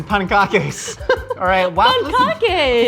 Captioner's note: laughing